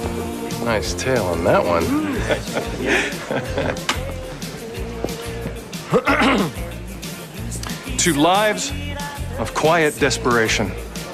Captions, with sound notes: Nice tail on that one. [chuckling] [clears throat] To lives of quiet desperation..